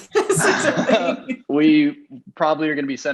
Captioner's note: laughing